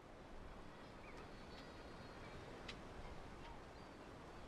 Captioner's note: birds chirping